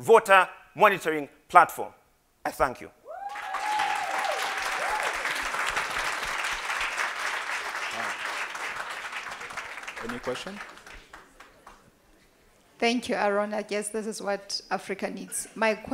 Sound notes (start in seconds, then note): 7.1 applause